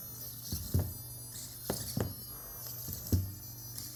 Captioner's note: thumps